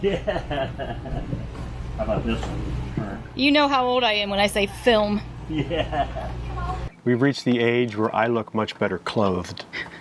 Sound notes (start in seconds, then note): 0.0 chuckles; 5.5 chuckles